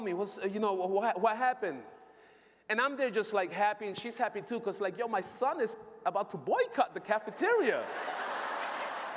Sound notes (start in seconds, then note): 7.8 laughter